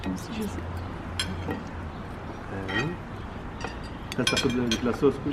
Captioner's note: cutlery clanking